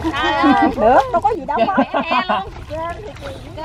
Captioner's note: laugh